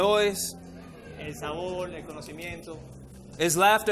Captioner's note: interpreter speaking in foreign language